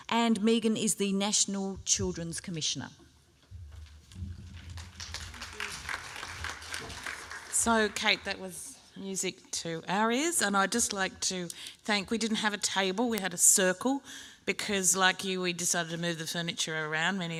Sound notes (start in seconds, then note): 4.2 applause